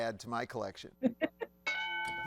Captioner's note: laughs; bell dings